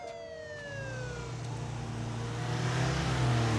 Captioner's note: engine roars